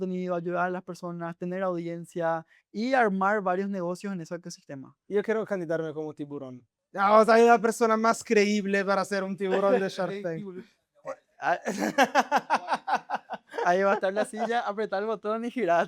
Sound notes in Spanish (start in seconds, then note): 11.6 risas